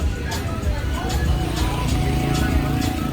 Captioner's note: people chatting and music playing